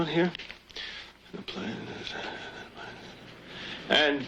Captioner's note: reads in a murmur